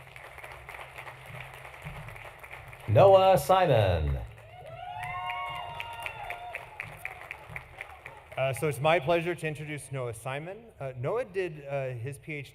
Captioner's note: applause